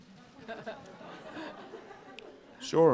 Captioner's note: all laughing